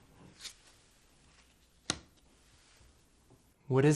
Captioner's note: card flipping